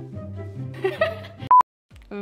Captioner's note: laughing